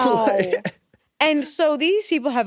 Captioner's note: laughs